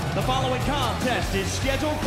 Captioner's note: bell